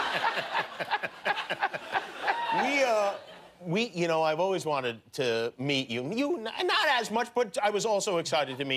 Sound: laughter

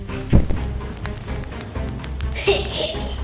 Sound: fire crackles; laughs

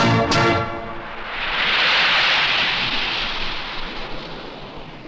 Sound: ocean Waves

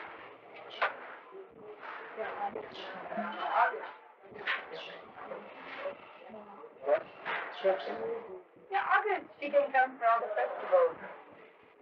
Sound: indistinct conversations

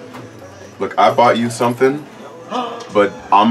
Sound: gasps

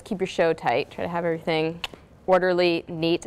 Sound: clicks tongue

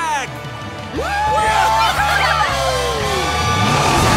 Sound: cheering

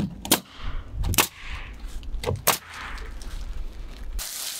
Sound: nail gun bangs

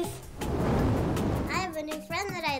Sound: fire blowing

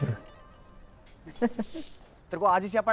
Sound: giggling

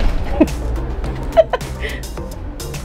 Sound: laughs; upbeat music

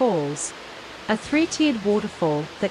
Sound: water falls

